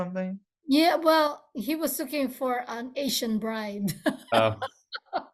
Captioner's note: laughs